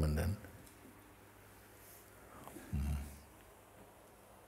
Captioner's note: silence